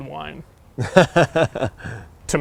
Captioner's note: laughs